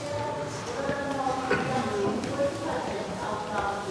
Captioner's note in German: Durchsage im Hintergrund